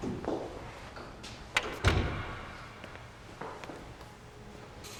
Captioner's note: door thudding